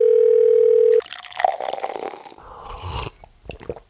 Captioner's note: phone rings; drink pouring; sips